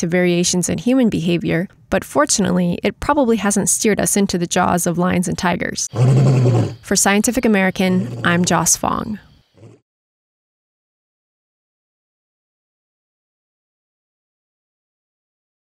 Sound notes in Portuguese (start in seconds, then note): 5.9 Rugido de leão